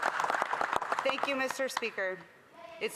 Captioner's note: some Applause